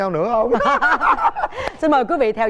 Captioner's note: laughing